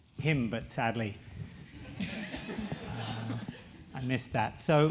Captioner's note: laugh